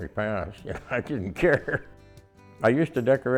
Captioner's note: chuckles